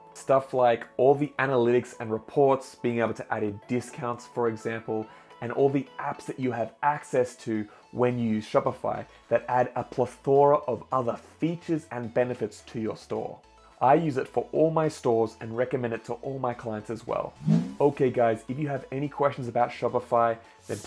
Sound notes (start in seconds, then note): 17.3 air whooshing